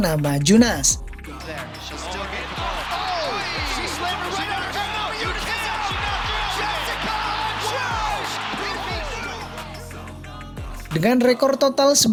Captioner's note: applause